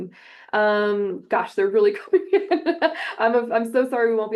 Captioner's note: laughs